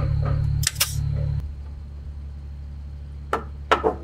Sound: electric staple gun shooting; hammer banging

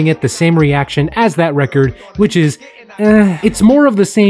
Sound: unenthusiastic groan

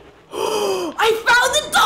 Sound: powerful inhale

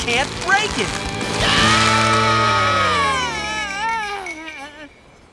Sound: screaming

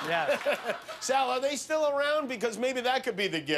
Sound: laughter

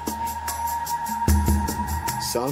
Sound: buzzing

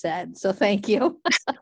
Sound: laughter

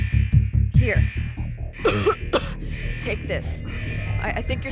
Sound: coughs

